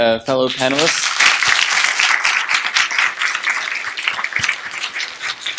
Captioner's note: applause